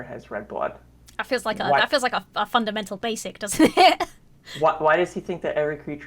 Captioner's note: laughs